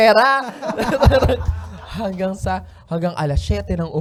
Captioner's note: laughter